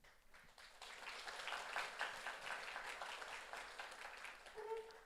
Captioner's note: audience applauds